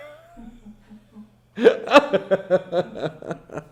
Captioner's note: laughing